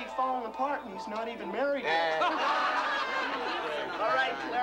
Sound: laughter

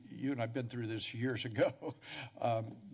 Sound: laugh

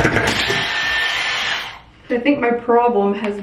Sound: blow dryer whines

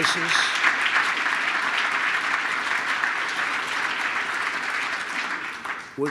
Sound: applause

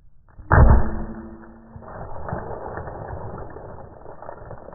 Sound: eggs break, anvil hits stone

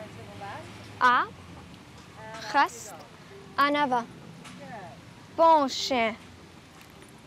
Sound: speaking French

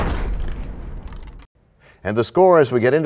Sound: crashing sound

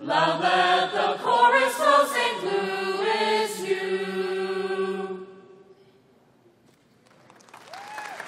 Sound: applause

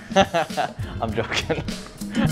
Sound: laughs

